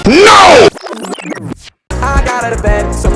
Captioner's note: rewind sound effect